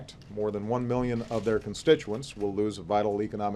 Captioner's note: none